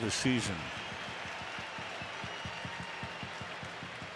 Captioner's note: crowd cheering